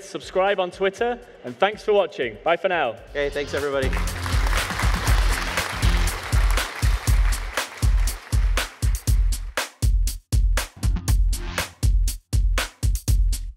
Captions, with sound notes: Subscribe on Twitter, and thanks for watching. Bye for now. - Hey, thanks, everybody. (audience cheering) (funky music)